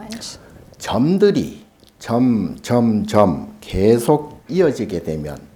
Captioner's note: speaking Korean